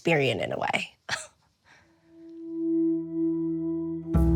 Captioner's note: laughs softly